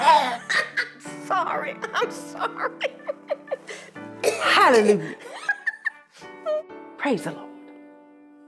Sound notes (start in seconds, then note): 0.0 cough, cough, cough, cough; 0.0 laugh; 4.2 cough, cough